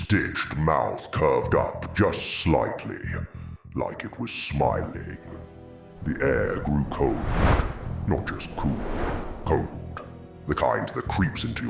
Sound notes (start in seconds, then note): 6.0 wind blowing